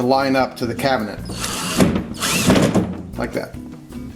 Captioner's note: drill turning